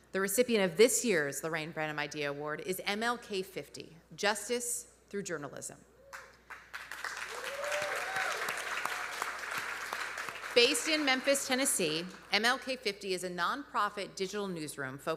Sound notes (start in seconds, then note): 6.5 audience applauding; 7.1 audience cheering